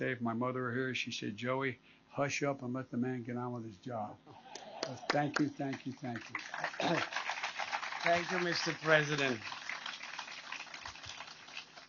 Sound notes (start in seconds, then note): 4.4 laughter; 6.7 applause